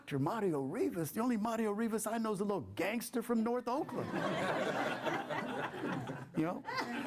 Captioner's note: laughter